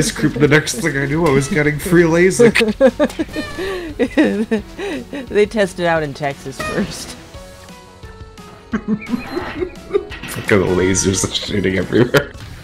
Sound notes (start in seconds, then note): 2.3 laughs; 8.7 laughing